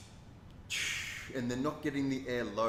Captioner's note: exhales; inhales